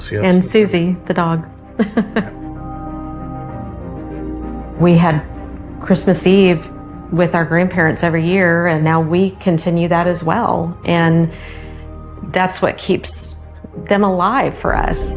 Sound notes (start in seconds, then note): 1.8 chuckling; 3.0 mysterious melody building